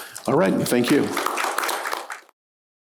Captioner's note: applause